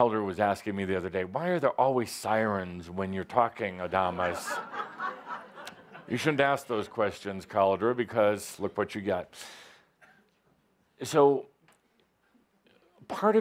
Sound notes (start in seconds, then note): 4.1 laughter